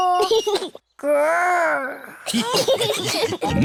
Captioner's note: laughter; giggles